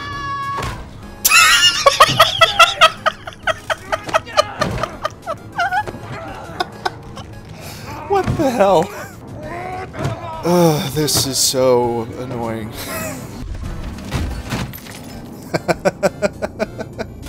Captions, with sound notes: *hysterical laughter* What the Hell? Ugh, this is so annoying. *wheeze* *chuckle*